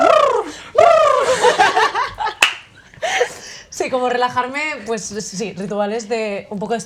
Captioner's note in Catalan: Aplaudiment